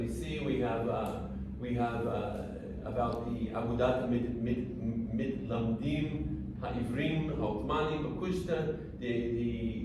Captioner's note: non-english speech